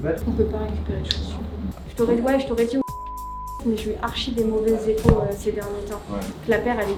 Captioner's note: beep